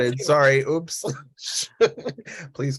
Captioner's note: laughs